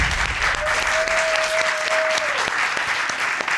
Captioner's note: audience applauding